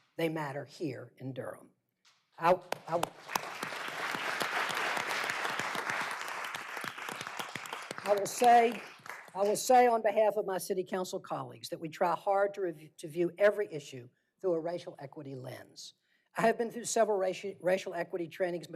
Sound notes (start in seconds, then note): 5.7 applause